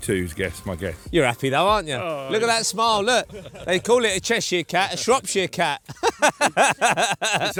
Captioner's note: laughs